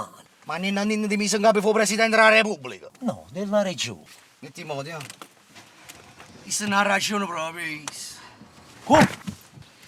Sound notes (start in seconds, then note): 8.9 thud